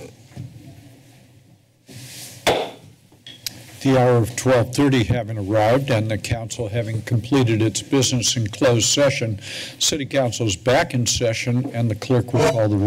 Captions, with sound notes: [Gavel Slam] - The hour of 12:30 having arrived and the council having completed its business in closed session. City council's back in the session and the clerk will call the roll.